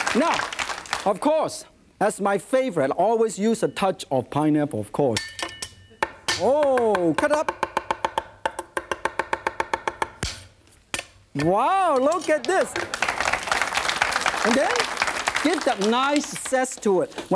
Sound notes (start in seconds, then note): 5.7 fast chopping; 11.9 audience claps